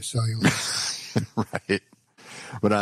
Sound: laughs

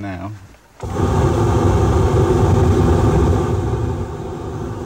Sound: burner roaring

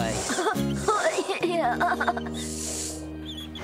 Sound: nervous Laugh

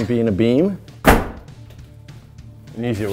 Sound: hammer smashing

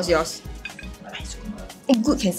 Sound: whispers

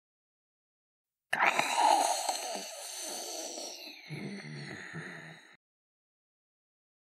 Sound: sound of demon growl

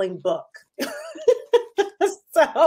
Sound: laughs

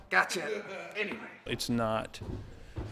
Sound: laughing

